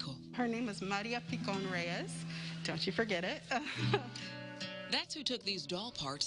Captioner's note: laugh